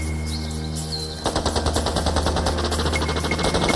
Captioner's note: gunfire